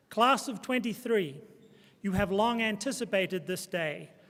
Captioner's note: none